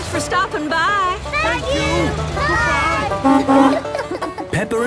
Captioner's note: honking